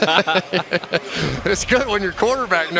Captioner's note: laughter